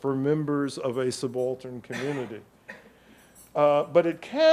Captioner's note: audience member coughs